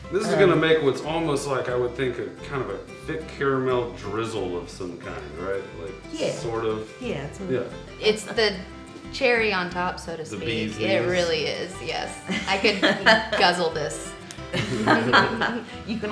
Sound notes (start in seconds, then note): 10.5 murmurs; 12.2 laughing